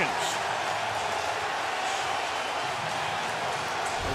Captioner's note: cheering